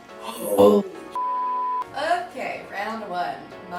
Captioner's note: beep